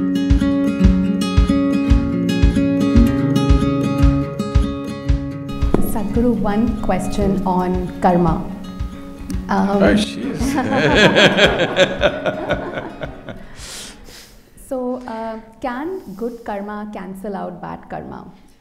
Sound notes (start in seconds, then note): 13.2 laughs